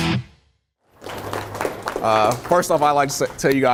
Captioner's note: applause